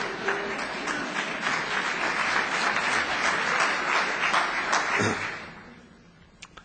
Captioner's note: applause; laughter